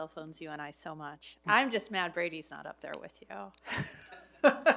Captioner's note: laughs